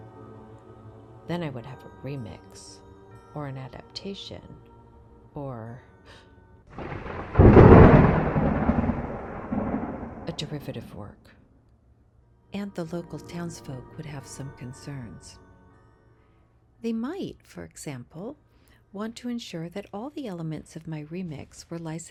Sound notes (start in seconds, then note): 6.8 gasp, thunderclap